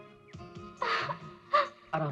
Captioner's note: groans